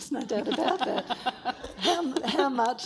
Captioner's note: everyone laughs